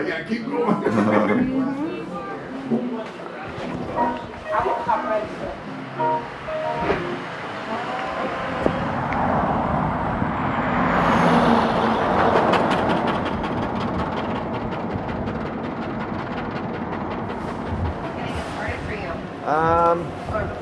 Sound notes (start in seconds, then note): 3.9 electronic Piano Music; 9.5 clunker car passing